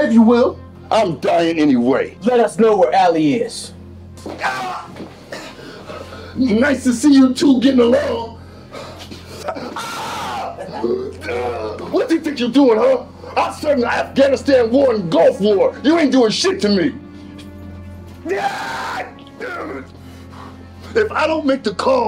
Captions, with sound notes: - I'm dying anyway. - Let us know where Alli is. (Killer Kam groans) - Nice to see you two getting along. (Killer Kam screams) What do he think you're doing, huh? I served in Afghanistan War and Gulf War. You ain't doing shit to me! (Killer Kam screams) God damn it! If I don't make the call,